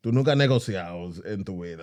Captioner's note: speaking In Foreign Language